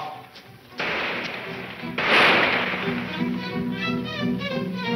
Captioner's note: gunshots banging